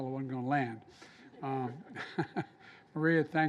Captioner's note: laughter